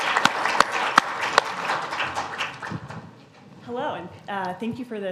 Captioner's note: applause